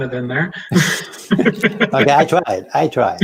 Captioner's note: both laughing